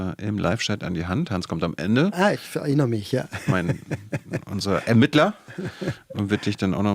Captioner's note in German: gelächter